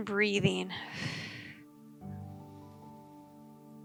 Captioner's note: exhaling